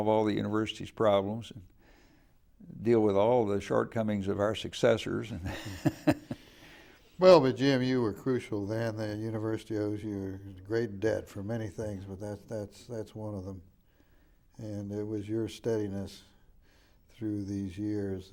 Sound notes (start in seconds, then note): 5.4 laughing